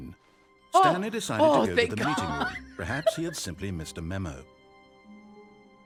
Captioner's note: laughing